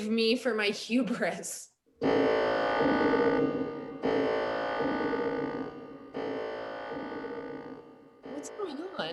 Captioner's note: loud, ominous alarm sound